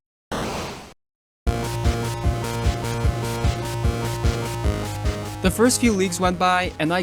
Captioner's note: BOOP BOOP BOP BOP but in rhythm